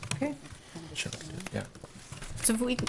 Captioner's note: whispering